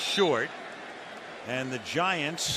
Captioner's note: whistles